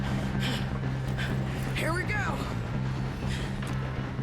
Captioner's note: grunts